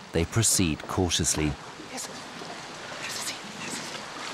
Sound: whispering

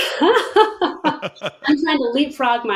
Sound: laughing

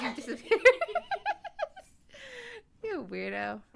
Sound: funny laugh

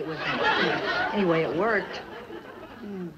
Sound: audience laughs

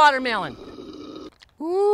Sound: sipping drink

